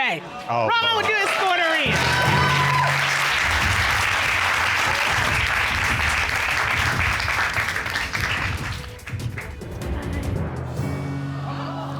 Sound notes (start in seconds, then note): 10.5 audience exclaims